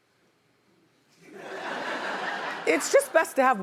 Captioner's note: audience laughing